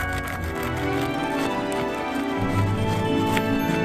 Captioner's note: cutting into the bread